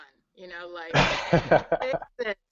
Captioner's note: laughs